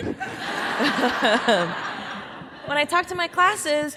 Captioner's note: audience laughing